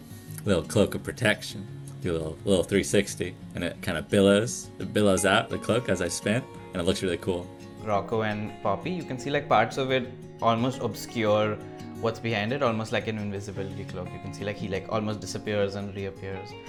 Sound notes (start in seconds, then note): none